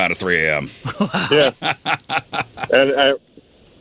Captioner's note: laughing